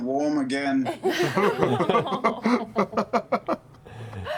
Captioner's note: laughter